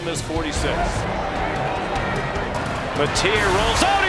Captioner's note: crowd cheering